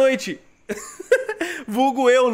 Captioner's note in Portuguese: risos